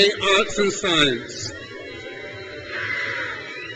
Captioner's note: crowd cheers